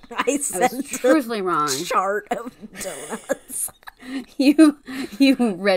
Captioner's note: laughs; laughing